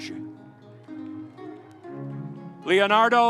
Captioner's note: audience applauding